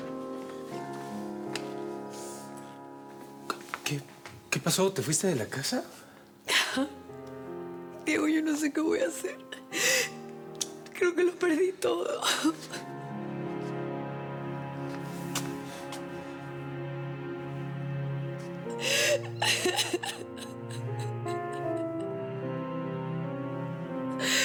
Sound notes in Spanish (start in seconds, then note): 12.0 sollozando